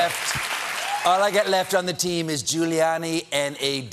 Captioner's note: cheers and applause